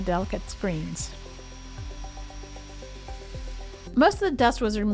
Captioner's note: vacuum whirring